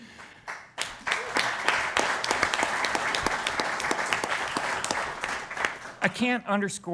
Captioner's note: applause